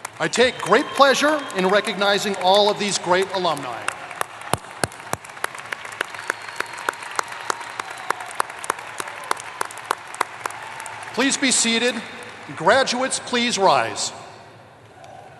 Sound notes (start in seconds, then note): 0.0 applause; 3.9 applause; 14.9 cheering